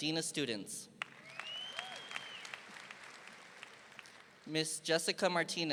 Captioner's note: audience applauding